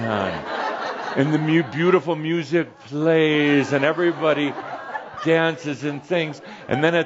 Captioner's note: laughter